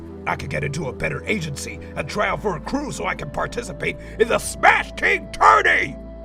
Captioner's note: none